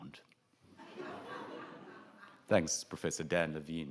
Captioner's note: audience laughs